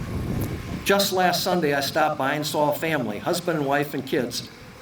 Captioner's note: none